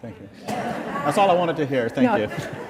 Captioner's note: laughter